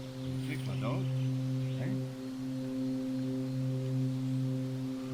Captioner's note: quietly